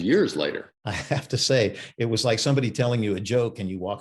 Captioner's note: chuckling